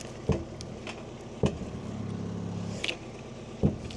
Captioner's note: wood thunking